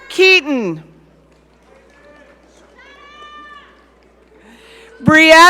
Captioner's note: audience cheering